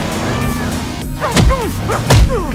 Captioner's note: both grunting